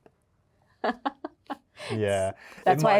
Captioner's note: Yerin laughing